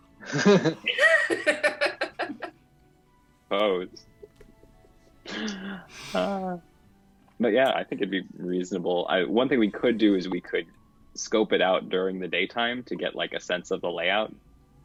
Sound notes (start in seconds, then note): 0.2 laughter; 5.2 laughs